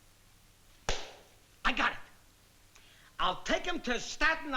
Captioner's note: claps